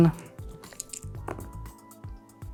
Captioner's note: dice rattling; dice rolling